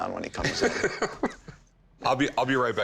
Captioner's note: laughs